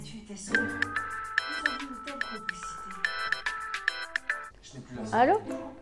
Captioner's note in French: sonnerie de téléphone